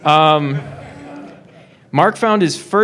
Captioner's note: laughing